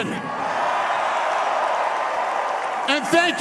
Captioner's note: applause